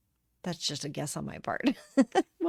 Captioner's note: light laughter